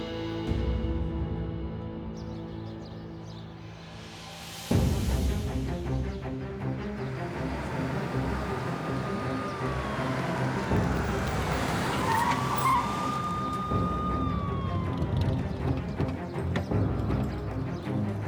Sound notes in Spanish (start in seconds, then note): 7.6 Sonido de motor